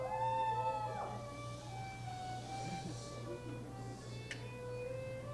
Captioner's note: audience cheering; audience shushing